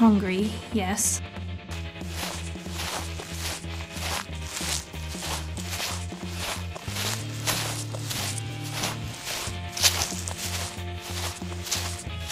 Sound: footsteps

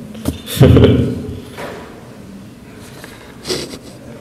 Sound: chuckles

